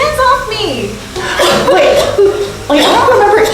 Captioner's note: gasps; coughs